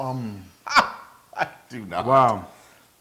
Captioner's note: laugh